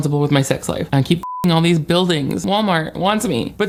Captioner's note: beep